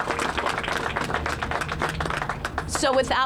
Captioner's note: applause